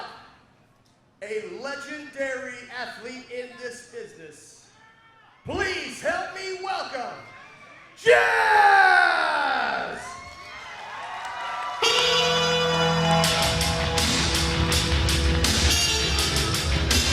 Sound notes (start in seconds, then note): 10.0 audience cheers; 12.8 intense rock music